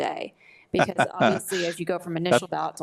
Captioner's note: laughs